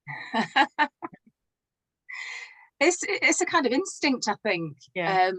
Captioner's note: laughs